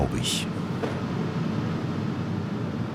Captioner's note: regular humming